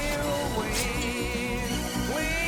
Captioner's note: snick